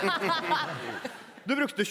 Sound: laughs

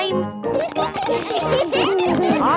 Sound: laughter

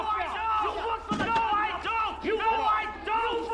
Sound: yelling

